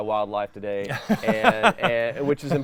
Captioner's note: laughs